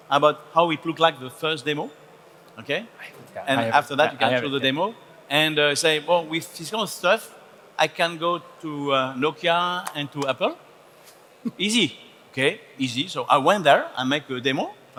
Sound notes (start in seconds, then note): 10.1 hands clapping